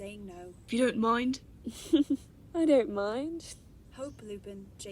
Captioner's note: she laughs